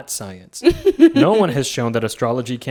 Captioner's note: laughing